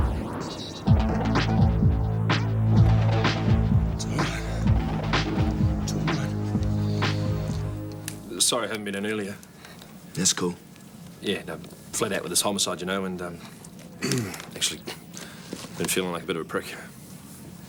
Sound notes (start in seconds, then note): 14.0 clears throat